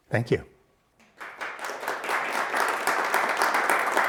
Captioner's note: audience applauding